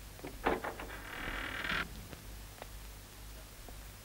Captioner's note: door creaks